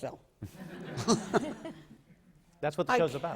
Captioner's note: laughter